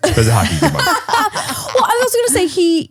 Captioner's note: laughing